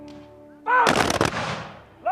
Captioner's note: rifles firing